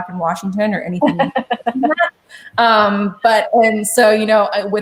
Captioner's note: chuckles